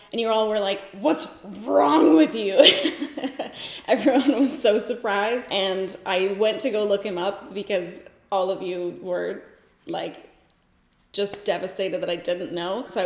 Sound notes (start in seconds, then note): 1.5 laughs